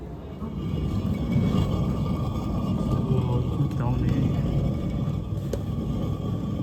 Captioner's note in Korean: 멧돌 돌리는 소리 큼 주의